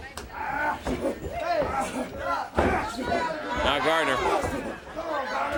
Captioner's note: crowd chatter